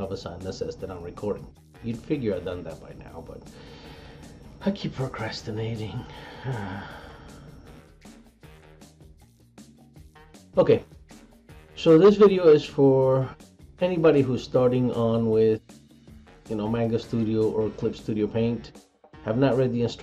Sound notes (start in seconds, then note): 6.1 sigh